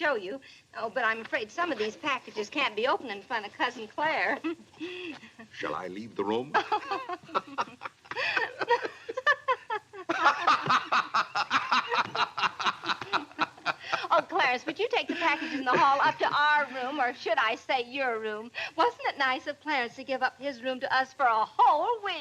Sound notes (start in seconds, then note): 7.1 laughing